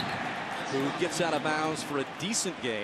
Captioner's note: whistle blows